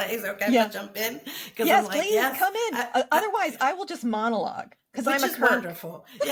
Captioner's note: laughs